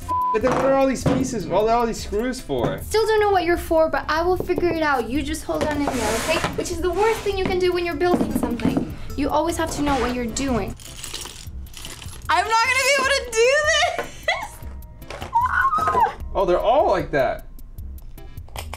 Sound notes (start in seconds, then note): 15.0 squeaks